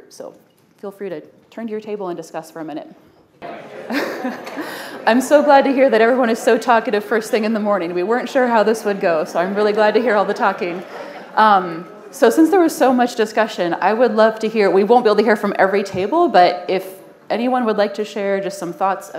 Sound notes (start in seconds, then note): 4.0 indistinct overlapping chatter